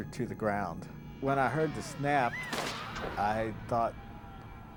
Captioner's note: cord snapping